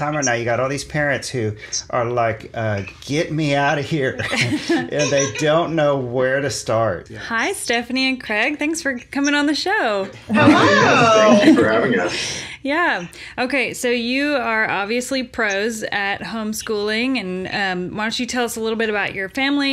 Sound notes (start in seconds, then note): 4.0 laughs